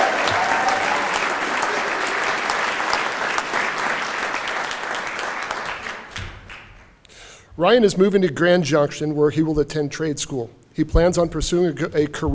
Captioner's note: cheering and Applause